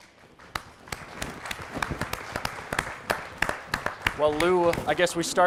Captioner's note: applause